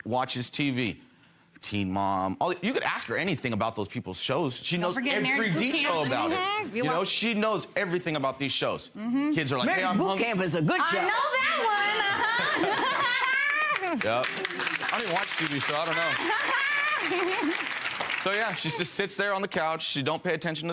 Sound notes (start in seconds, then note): 11.5 laughs; 14.5 audience applauds